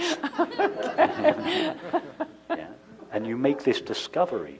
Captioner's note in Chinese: 笑聲